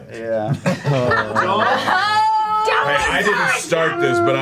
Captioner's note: all groan